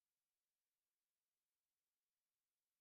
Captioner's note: none